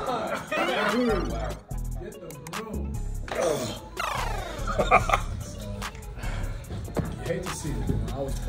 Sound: laugh

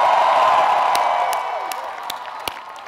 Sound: applause

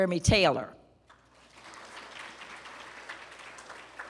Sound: applause

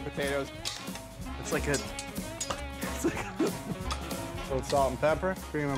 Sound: metal clanking

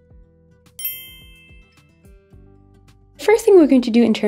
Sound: bell chiming

